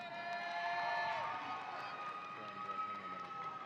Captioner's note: audience cheering